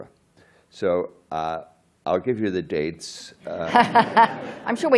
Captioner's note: laughter